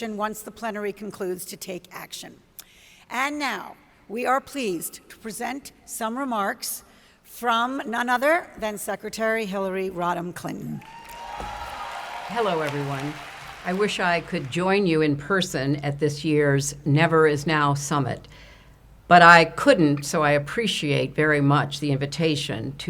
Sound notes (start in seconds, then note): 10.8 audience applauds